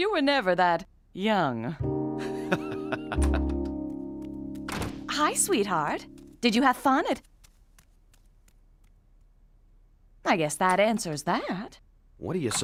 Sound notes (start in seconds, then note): 2.3 laughing; 2.6 door opening